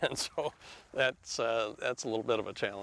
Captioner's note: laughs